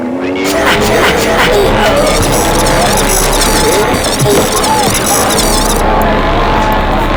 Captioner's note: electronic beeping; intense music